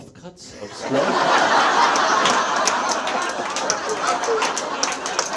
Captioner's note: audience laughs